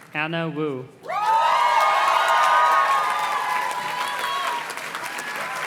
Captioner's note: audience cheers and claps